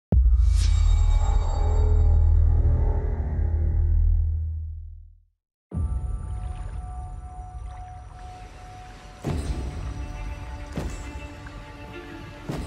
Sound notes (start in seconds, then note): 0.2 transition sound; 5.9 water gurgling; 9.3 dramatic music playing